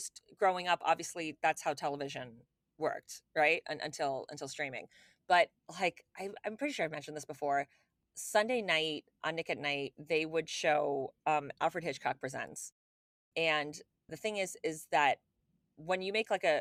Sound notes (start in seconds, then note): none